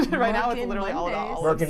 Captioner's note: chuckles